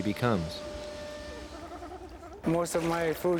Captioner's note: seals barking